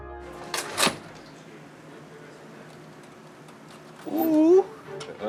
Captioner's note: oven door clanking